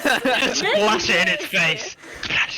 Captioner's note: laughing; laughs